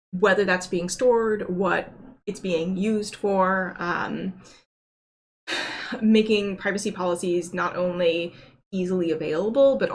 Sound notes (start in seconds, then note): 5.6 sighs